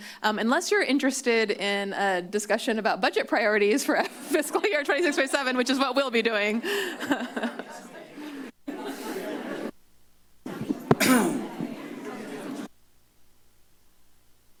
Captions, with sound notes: Um, unless you're interested in a discussion about budget priorities for Fiscal Year 26-27, which is what we'll be doing. [laughs]